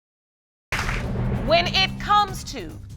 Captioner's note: audience clapping